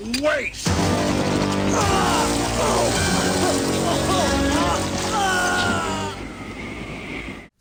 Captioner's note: groaning, dramatic music